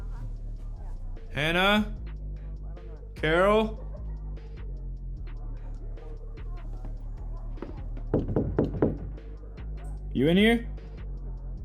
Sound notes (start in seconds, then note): 8.0 Alan knocking